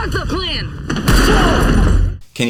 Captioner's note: screaming